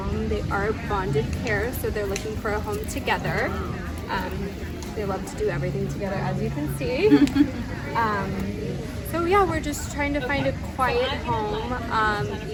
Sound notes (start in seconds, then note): 7.1 laughing